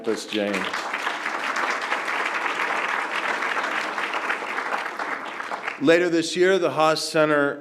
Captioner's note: applause